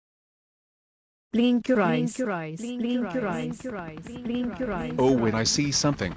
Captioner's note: voiceover